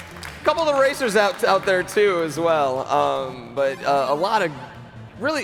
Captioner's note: applause